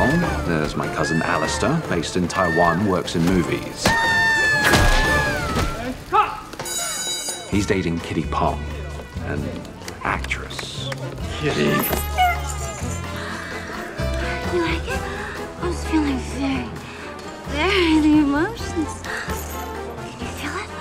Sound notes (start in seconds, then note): 3.8 punching and screaming; 6.6 alarm goes off; 10.1 claps; 10.2 upbeat tango music